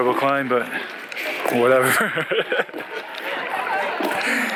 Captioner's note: laughs